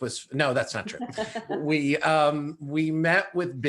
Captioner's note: all laughing